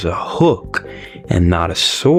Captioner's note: inhales Oxygen